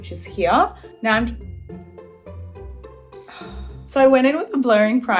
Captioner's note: sighs